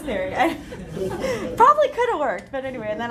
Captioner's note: laughter